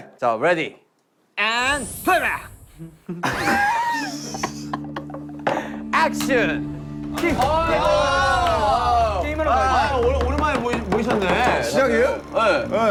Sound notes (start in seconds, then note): 2.7 laughing